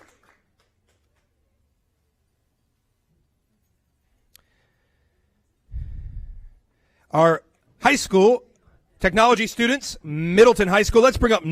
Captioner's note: applause